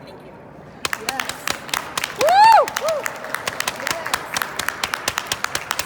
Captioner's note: applause